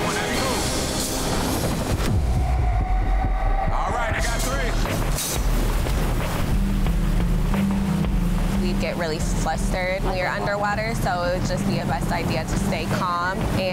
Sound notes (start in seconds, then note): 2.1 urgent music; 4.9 metal clanging; 6.4 water rushing